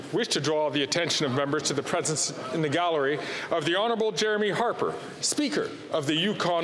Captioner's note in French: voix de l'interprète